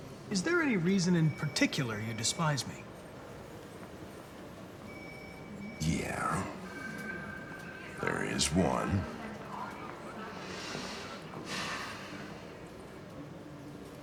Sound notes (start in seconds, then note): 10.8 irritated sigh